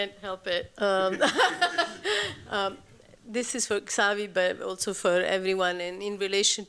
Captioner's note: laughs